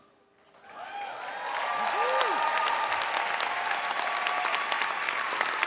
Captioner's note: audience cheering and clapping